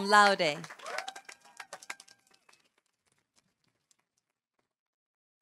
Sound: audience applauding

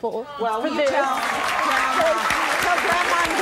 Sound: applause

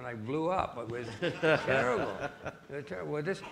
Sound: audience laughing

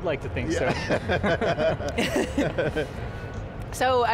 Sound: laughing

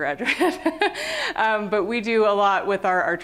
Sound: laughter

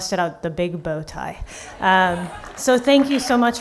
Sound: laughing

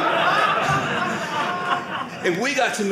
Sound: audience laughing

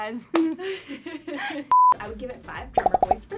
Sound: laughs

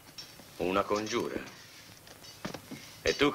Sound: thudding

